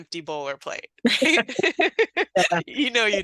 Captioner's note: laughing